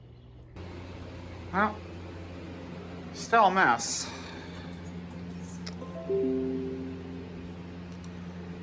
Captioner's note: computer notification sound